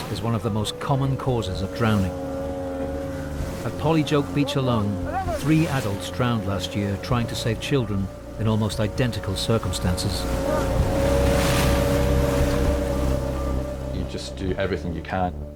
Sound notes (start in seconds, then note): 10.7 motor whirring; 10.7 water splashing